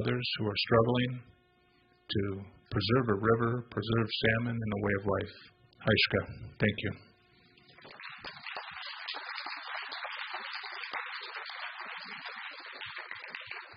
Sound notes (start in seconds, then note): 10.7 applause